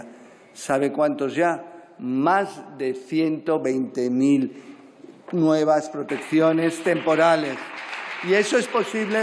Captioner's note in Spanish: Aplausos